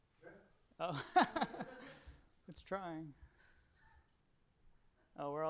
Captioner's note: laughs